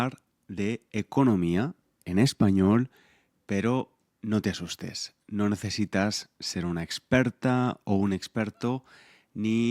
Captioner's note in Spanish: en español